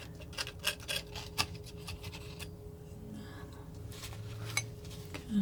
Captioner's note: scraping